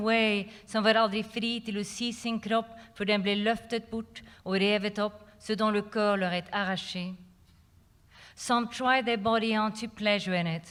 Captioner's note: non-english speech